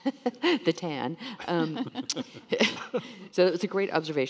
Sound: panelists laughing

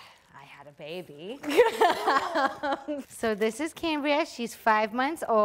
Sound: laughter

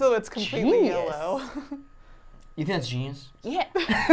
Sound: laughs

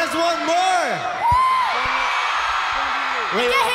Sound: applause and cheering

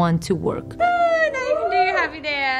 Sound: cheers

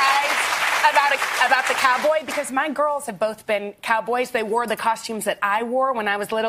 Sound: applause

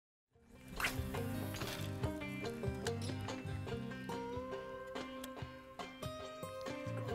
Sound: gentle music; reel whizzes

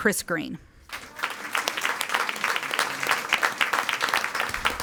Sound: audience applauding

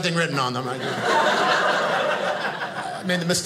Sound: audience laughing

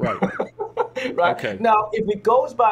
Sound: laughs

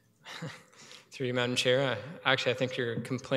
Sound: chuckling

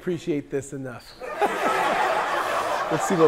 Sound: people laughing

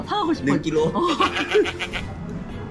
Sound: laughing

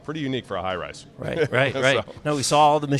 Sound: laughs

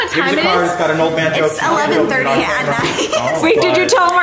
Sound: laughs

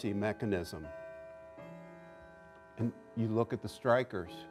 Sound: clock chimes

